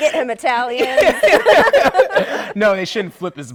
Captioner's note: laughter